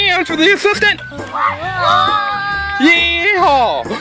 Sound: yelling

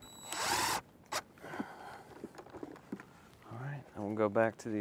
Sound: power tool whirring

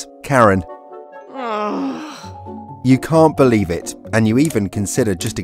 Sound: sigh

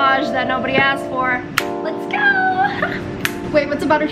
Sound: exclaims

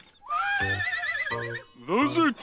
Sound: horse neighing

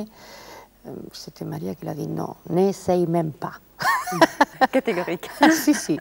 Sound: laughs

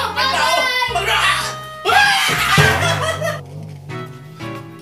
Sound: yells, cries

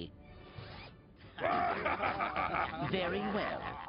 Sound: laughing

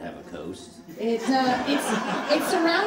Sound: audience laughing

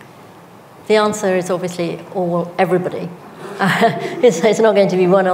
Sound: chuckles

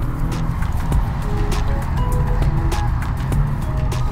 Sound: engine revving

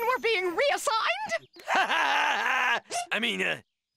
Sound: laughing

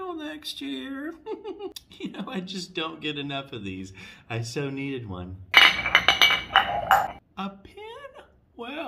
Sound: sound of several mugs clanging together

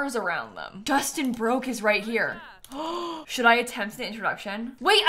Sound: gasps

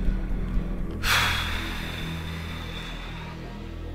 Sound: exhales heavily

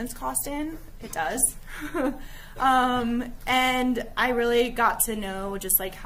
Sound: chuckling

